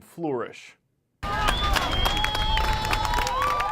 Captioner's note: cheers and applause